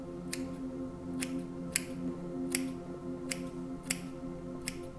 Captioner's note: scissors snipping